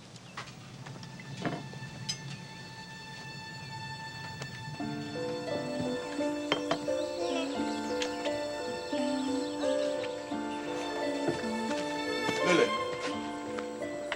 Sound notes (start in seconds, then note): 1.0 dramatic music; 5.9 Lilly hums softly